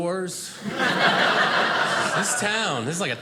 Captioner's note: audience laughing